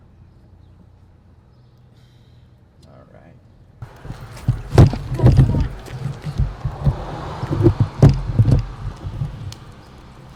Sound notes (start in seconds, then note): 1.5 canto de pájaros; 3.8 zumbido de coches; 3.8 golpeteo del micrófono